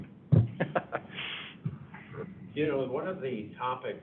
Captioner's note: laughs